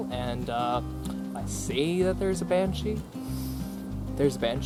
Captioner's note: sniffs